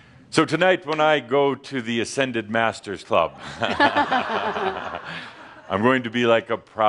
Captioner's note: some chuckles